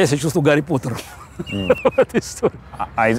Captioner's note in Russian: смеясь